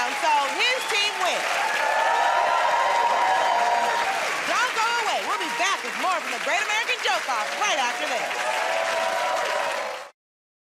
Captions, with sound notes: so his team wins. [ Cheers and applause ] Don't go away. We'll be back with more from "The Great American Joke Off" right after this.